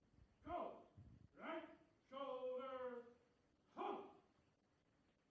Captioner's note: voiceover